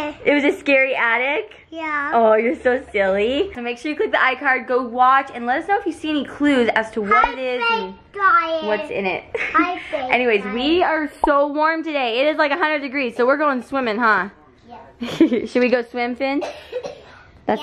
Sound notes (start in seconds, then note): 9.4 laughs; 15.0 laughs